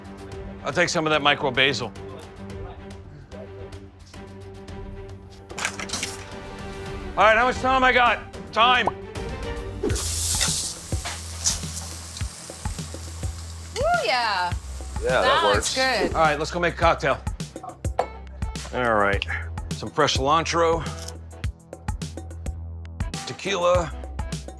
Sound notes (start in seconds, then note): 0.2 dramatic music; 2.2 tense music; 9.6 fish sizzling